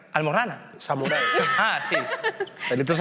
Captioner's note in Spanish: todos ríen